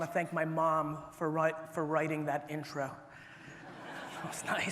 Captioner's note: audience laughter